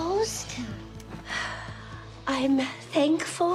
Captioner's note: Jan sighs